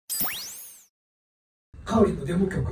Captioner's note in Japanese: 効果音